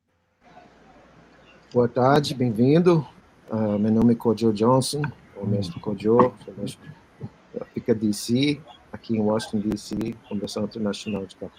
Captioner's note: speaking Portuguese